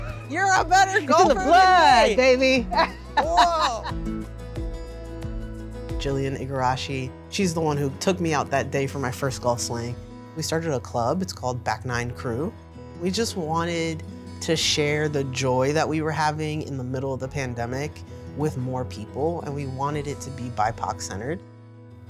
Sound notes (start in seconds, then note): 0.5 laughs